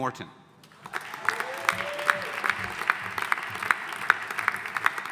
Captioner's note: audience applauding